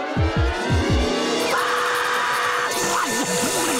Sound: screaming

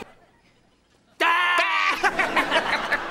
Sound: screaming; laughing manically

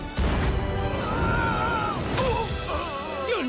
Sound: yelling and groaning

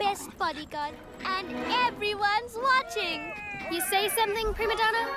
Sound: cheering

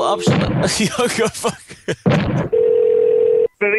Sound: laughter; telephone Ringing

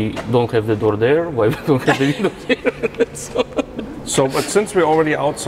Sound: laughs

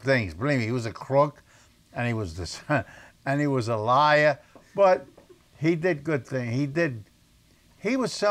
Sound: laughs

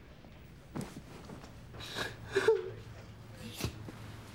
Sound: sobs

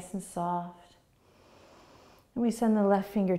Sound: inhaling

